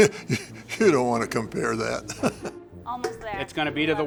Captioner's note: laughs